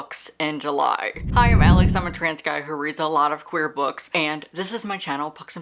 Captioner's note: whoosh